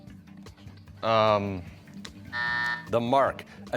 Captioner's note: buzzer